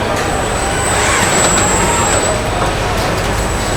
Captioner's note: screaming